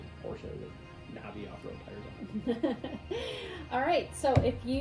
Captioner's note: chuckles